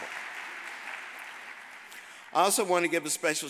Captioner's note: audience applauding